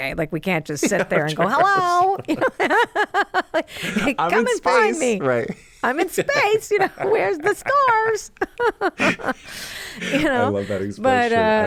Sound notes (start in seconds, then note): 0.8 laughs; 9.4 both laugh